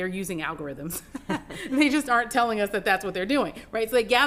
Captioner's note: laughs